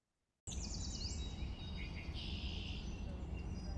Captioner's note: birds chirping